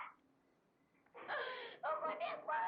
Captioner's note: Maria crying